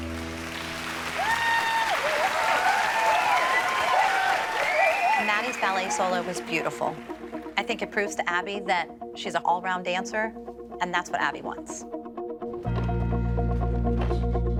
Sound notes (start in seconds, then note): 0.3 applause; 4.1 cheering